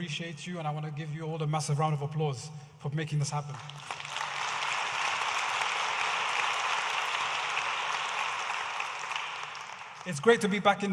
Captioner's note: audience applauding